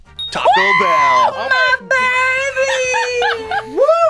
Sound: laughs

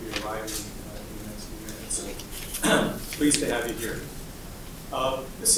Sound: cough

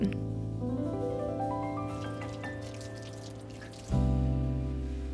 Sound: soft jazzy music continues; water splashing; soft jazzy music continues

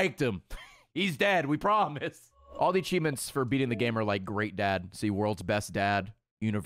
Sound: laughs

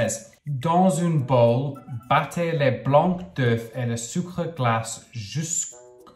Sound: speaking in foreign language

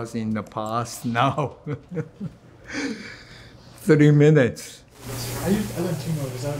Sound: chuckles

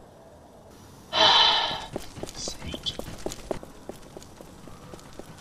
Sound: sighs

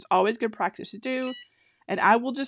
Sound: EasyPress beeping

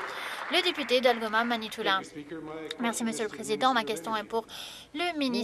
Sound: some Applause

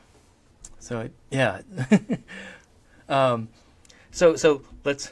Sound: chuckles

